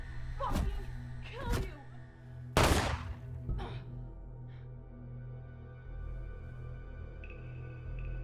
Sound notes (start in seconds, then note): 2.6 gun firing; 3.5 woman gasping